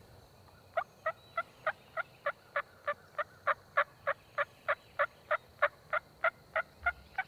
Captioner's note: turkey calls; turkeys gobbling